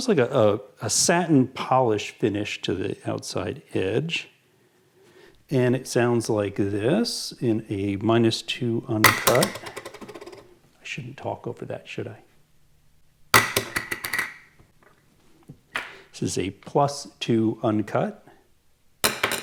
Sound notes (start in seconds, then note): 9.0 plunking sound; 13.4 plunking sound; 19.1 plunking sound